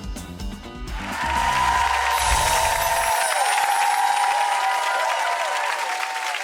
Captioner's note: audience cheers and applauds